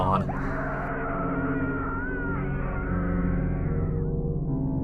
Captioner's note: violent screaming